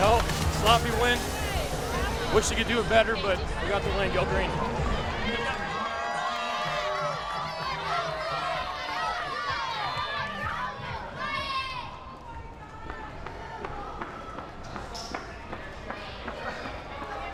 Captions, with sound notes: - Well, sloppy win. Wish we could do it better, but, we got the win, go green. (crowd cheers)